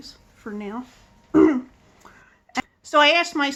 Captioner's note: clears throat